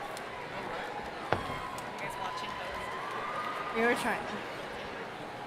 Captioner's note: crowd chattering